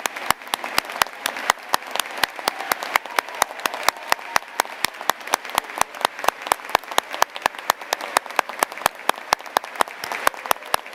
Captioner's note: cheers and applause